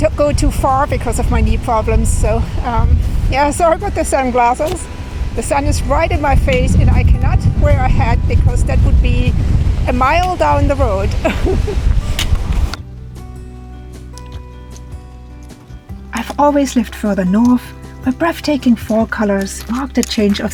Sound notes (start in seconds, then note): 11.1 laughs